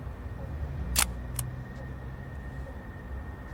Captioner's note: gun clicking